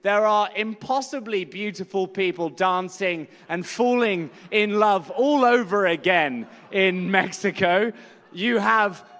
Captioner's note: laughter